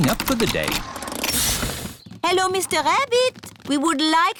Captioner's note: engine stops